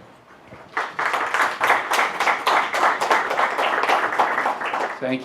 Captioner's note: applause